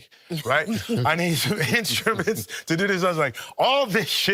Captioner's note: all chuckling